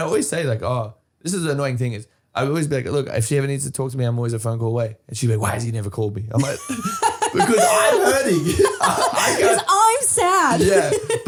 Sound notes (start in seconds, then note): 6.4 laughing